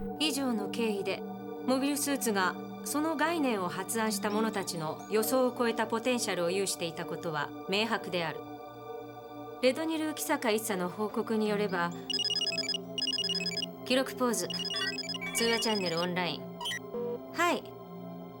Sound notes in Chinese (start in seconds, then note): 12.0 來電